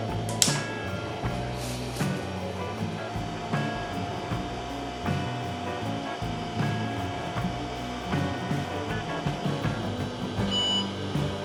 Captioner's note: Lovely PS/2 booting sounds